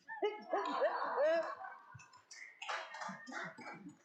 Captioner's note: laughing